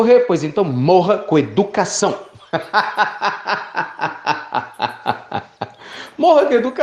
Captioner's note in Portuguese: Risos